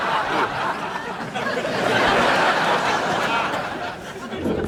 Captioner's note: laughs